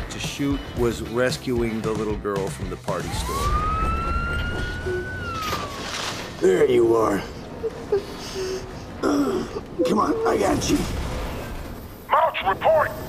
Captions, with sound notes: was rescuing the little girl from the party store. [ Siren wailing ] There you are. -[ Whimpering ] -[ Grunts ] Come on. I got you. -Mouch, report!